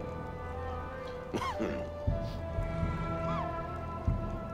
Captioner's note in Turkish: Öksürük sesi